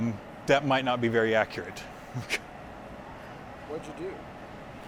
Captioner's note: chuckles